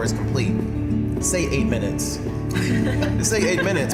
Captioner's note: all laughing